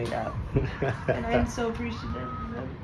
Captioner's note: chuckling